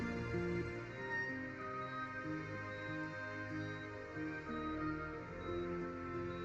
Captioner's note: heart monitor beeping steadily